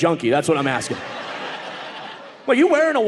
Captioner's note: audience laughing